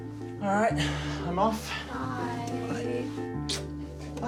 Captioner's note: smooches